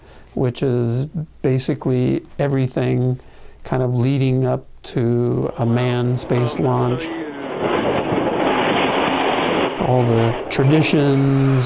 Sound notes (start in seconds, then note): 7.1 sound of rocket rolling out